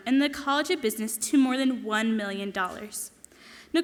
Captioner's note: none